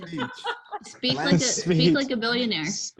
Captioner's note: laughs